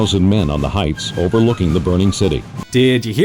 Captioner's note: blown out narration audio plays